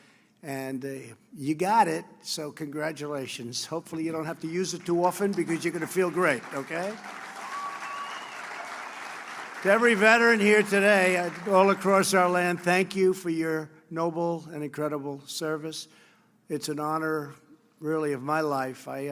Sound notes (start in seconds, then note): 7.7 applause